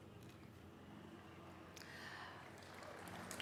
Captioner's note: applause